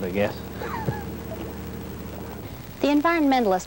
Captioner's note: laughs